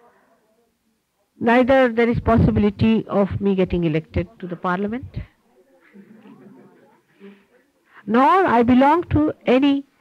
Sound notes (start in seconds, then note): 5.9 laughter